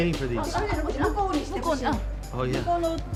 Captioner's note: speaking japanese